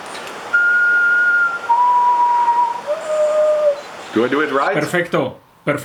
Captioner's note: common potoo whistling